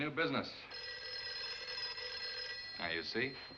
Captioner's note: phone ringing